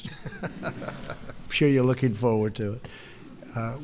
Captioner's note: laughter